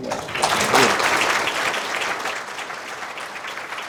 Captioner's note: audience applauds